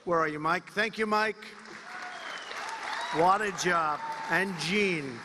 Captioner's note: applause